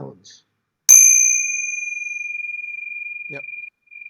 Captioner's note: bell rings